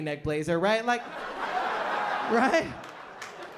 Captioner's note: laughter